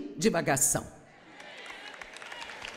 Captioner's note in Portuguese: audiência aplaude